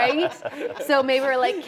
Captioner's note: people laughing